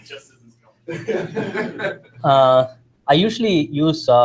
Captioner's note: laughter